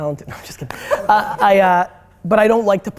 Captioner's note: laughs